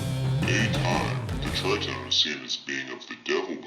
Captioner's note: distorted voice